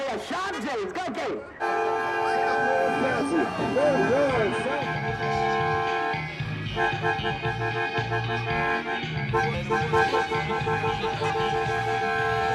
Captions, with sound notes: Mayor Sharpe James! [car horns honking] [upbeat music playing]